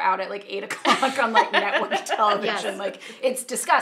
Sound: laughing

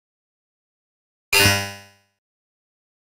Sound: sound of robot

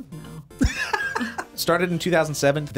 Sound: React laughs

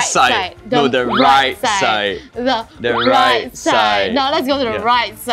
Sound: squabbling

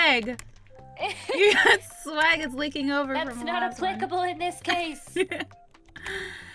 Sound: laughs

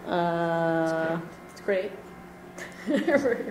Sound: voiceover; chuckles and mumbles

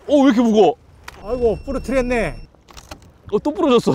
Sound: crack

